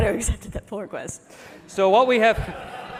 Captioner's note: laughter